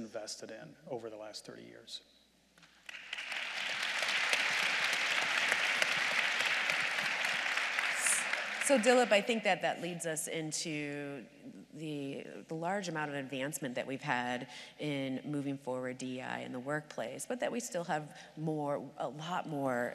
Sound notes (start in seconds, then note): 6.7 applause